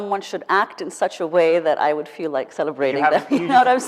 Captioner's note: laughs